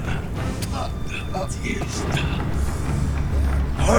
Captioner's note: David spitting